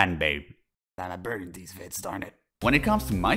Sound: whispering

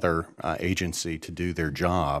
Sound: none

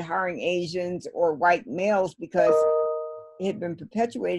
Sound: laptop chiming

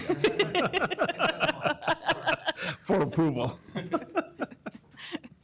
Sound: laughter

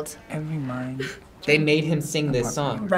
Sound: laughs

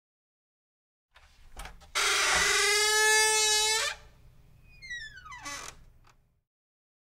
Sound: door creak

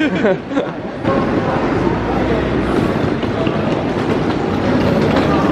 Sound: machinery whirring

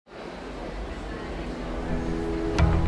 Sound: group chattering; uplifting music

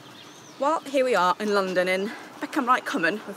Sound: birds chirping

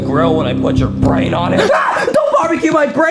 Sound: screams

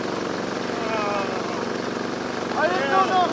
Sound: groans

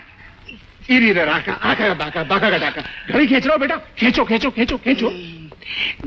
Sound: humming nonsense lyrics

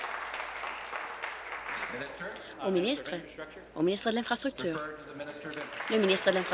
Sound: applause

